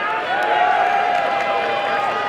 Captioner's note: applause and cheering